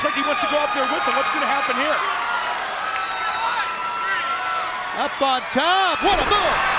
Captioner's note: crowd cheering